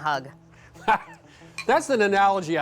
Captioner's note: laughs